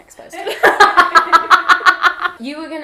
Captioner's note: laughs